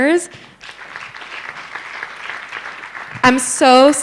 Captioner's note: applause